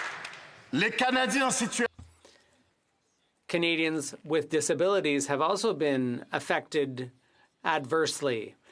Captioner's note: some Applause